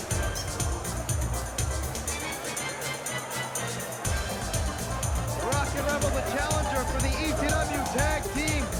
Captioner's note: crowd cheering